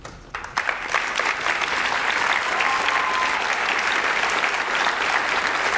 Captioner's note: audience cheers and applauds